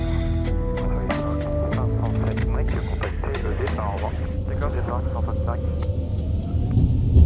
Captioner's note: radio chatter